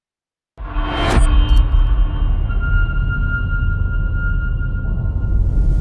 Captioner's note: dramatic sound